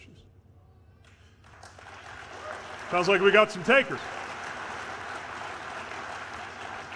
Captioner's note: applause